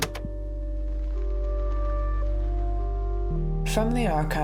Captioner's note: click